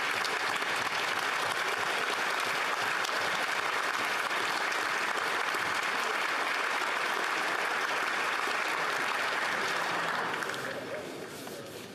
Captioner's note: applause